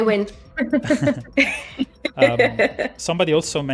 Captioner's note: laughs